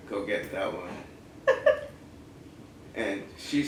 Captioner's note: laugh